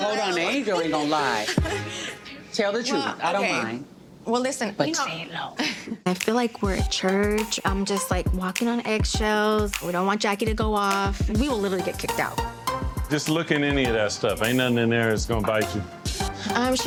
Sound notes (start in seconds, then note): 1.4 laughs